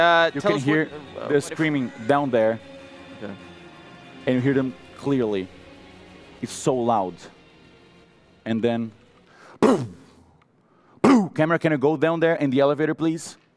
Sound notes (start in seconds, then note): 9.5 pow pow